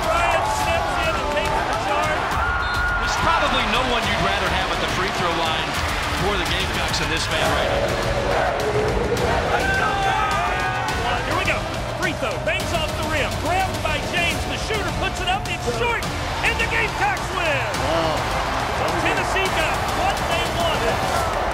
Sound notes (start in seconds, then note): 2.5 crowd cheering; 8.4 crowd cheering